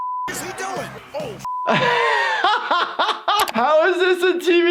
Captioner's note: beep